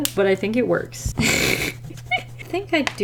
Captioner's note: laughs